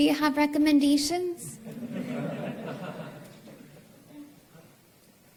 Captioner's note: laughter